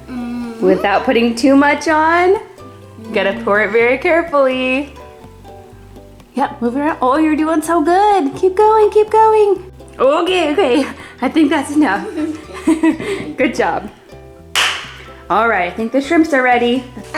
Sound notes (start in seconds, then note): 11.9 laughing